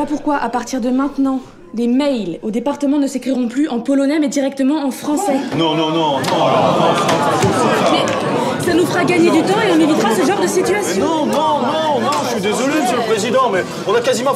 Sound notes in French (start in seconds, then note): 6.0 brouhaha - désaccords